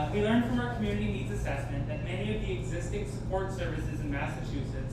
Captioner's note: none